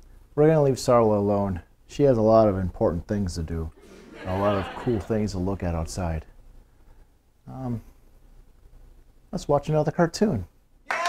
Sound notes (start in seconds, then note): 3.8 laughter; 10.8 cheering and applauding